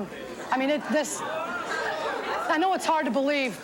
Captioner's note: audience exclaims